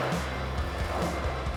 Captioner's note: skateboard rolling